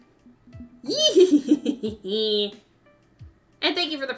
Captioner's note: happy giggles